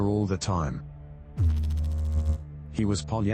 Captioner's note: electrical noise